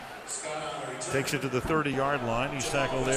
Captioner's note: stadium announcements